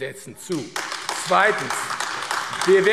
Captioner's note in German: Beifall AfD